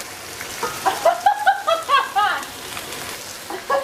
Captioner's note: laughs